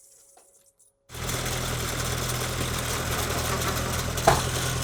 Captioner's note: machine grinds